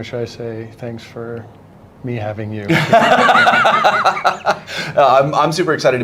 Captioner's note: laughter